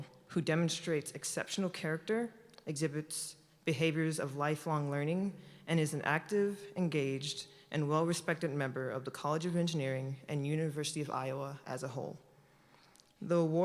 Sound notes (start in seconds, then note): none